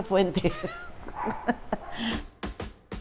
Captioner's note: laughs